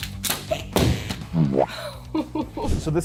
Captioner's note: bottle drops